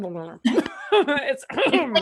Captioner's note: laughs